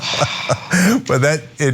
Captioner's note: laugh